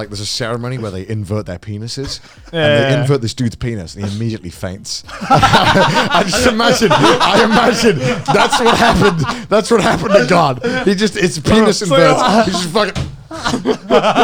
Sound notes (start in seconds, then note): 5.6 all laughing